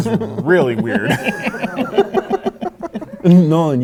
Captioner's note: laughing